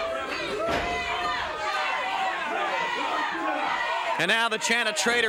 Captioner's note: crowd chants "Traitor"